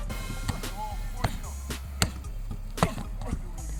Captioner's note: grunting